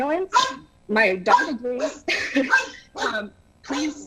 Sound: laughter

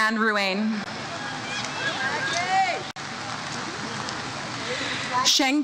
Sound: audience member cheers "Maggie"

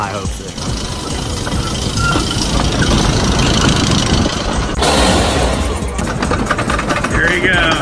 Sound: lift hill chugging

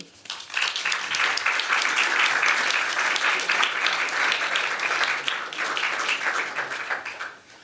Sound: applause

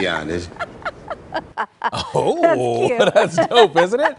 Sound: laughter

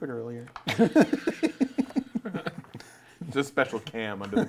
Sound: laughing

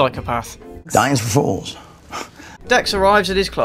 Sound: scoff

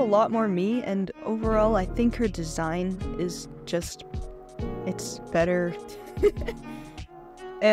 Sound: laughs

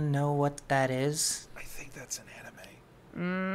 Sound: whispering

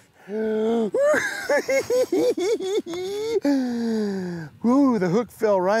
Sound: chuckles

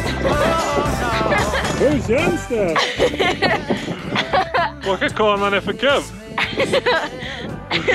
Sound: laughter

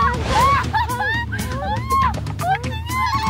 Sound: scream like a pterosaur

